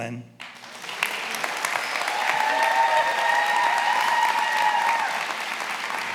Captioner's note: attendees applauding and cheering